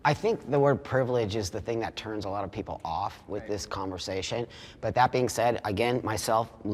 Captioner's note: none